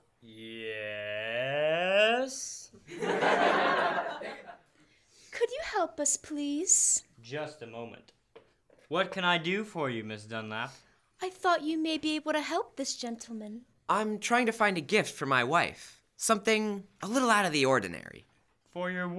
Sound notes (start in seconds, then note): 2.8 laughter; 8.8 sound footsteps